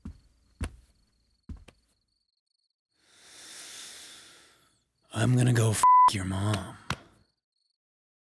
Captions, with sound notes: I'm gonna go (beep) your mom.